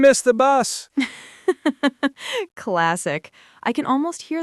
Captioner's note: laughs